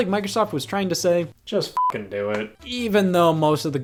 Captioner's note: beep